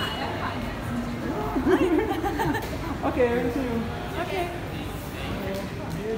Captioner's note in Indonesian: tertawa